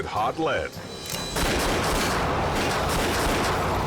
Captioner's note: gun shots